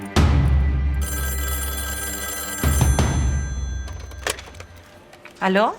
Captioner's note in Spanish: Suena el teléfono